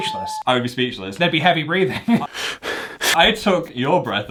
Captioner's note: breathes heavily